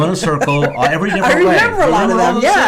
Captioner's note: laughs